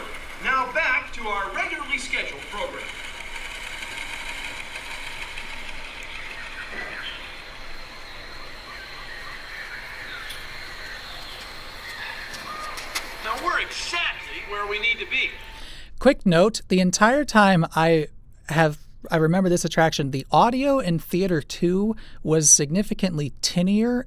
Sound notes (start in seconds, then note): 4.0 teletype noises fade out; 6.7 jungle noises fade in